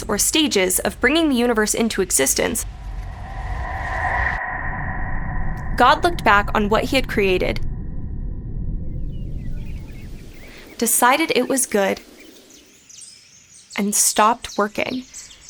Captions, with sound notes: or stages of bringing the universe into existence, (dramatic music) God looked back on what he had created, (wind blowing) (birds chirping) decided it was good and stopped working.